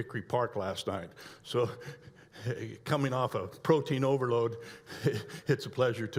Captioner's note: laughs